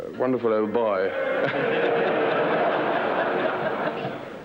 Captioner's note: crowd laughing